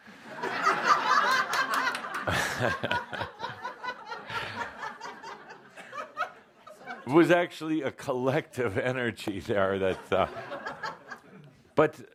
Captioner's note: much laughter